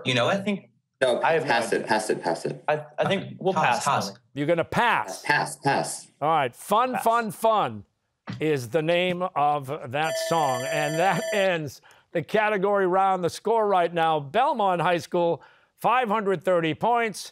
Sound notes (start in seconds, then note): 10.0 bell ringing